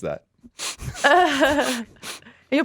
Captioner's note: laughs